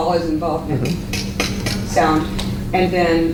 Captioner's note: tongue clicks rapidly